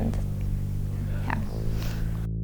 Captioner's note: sniff